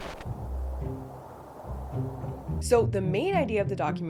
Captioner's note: wind whistling